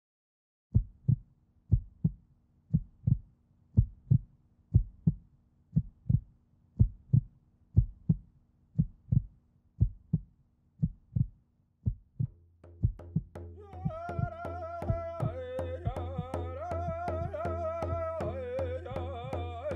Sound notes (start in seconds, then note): 1.7 heart beating; 13.3 drumming and chanting